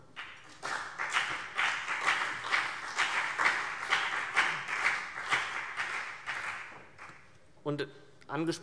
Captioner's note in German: Beifall CDU und BÜNDNIS 90/DIE GRÜNEN